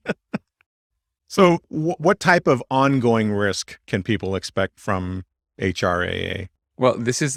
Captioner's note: laughs